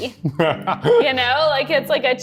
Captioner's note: laughs